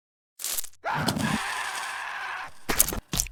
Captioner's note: brainworm bob screams